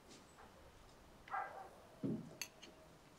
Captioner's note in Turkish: Köpek havlama sesi